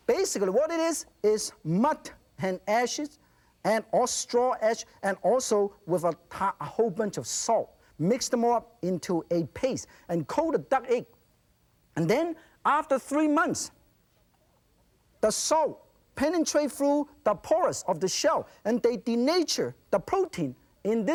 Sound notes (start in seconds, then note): none